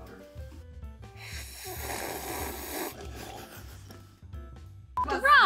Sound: slurping coffee

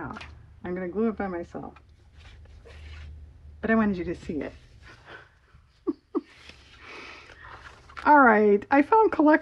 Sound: laughs

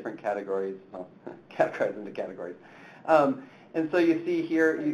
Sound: chuckles

